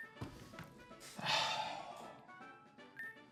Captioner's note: sighs